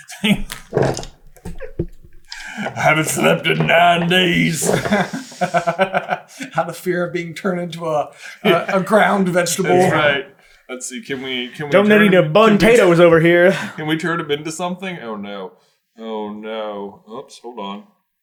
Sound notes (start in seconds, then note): 2.2 giggling; 5.1 laughing